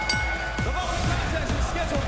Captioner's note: bell ringing